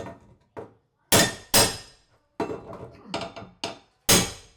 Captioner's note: hammer clunking